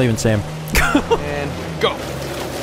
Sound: laughs

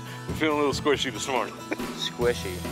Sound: laughter

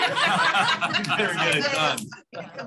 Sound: laughter

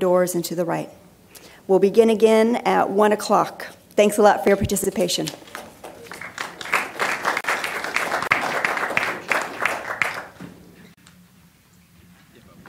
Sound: applause

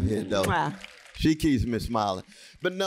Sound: applause

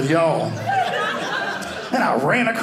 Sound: audience laughing

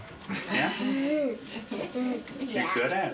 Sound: chuckles

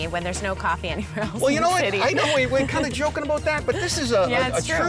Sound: laughter

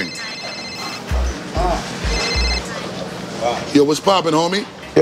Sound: cellphone ringing

